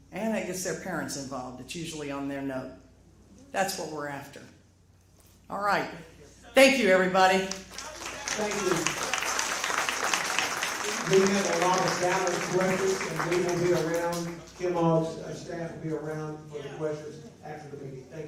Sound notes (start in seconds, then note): 7.4 applause